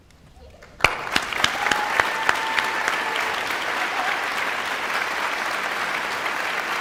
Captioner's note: guests cheering and applauding